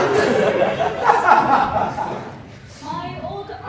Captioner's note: ha ha ha ha ha!